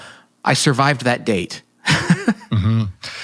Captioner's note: laughing